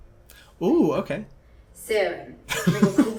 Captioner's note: whispers